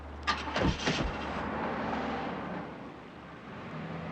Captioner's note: engine revving